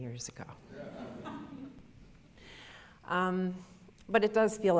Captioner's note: audience laughter